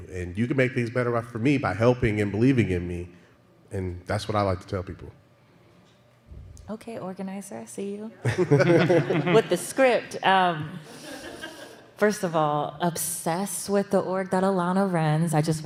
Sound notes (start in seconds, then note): 8.2 laughter